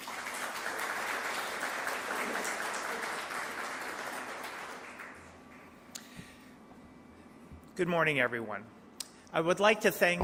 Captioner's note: applause